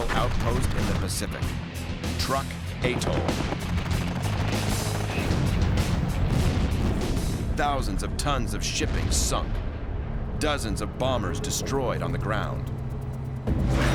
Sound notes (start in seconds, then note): 3.0 gunfire; 8.7 explosions